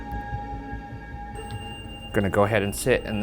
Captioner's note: REM pod screeching